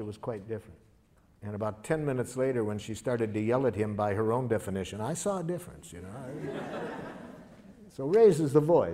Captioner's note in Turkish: Gülüşmeler